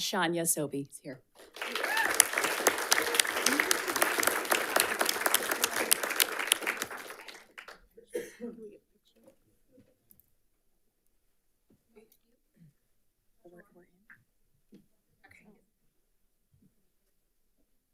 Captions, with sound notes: Shanya Sobhi's here. (audience applauds)